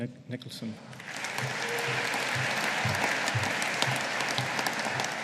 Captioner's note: audience applauding